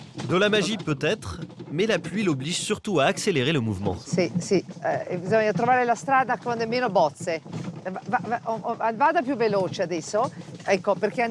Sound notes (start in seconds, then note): 4.6 speaks in Italian